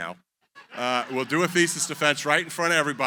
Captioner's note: laughter